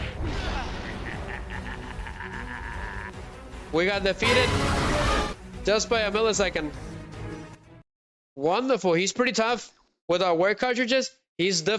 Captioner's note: laughter